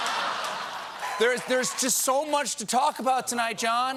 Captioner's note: laughter